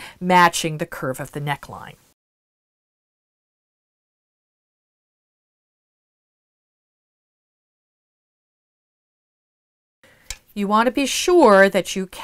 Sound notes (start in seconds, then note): 2.1 no Sound Present